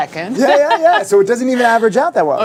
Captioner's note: laughs